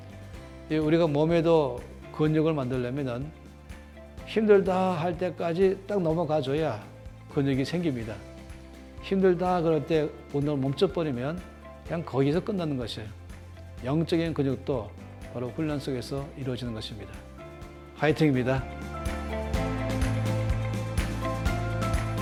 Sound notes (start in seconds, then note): 19.0 Korean Cheering